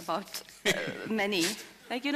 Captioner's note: Sadhguru Laughs